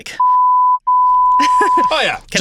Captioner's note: laughing